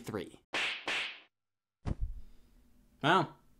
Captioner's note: knee slapping